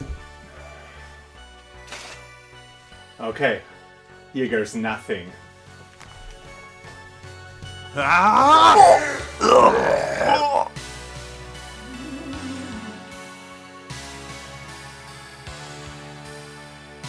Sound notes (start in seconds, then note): 8.0 screams, roaring